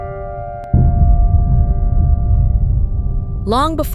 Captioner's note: boom